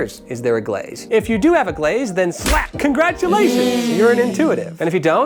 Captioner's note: slap